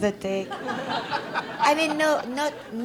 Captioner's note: audience laughs